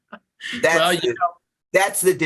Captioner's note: laughter